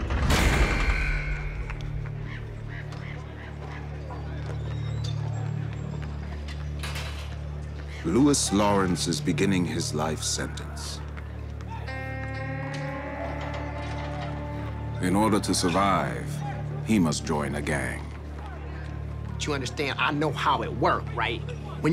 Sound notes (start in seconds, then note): 0.1 cell door slamming; 2.0 birds squawking; 6.5 ominous music